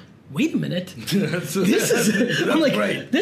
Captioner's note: laughs